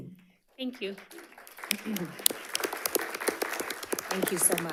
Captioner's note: audience applauding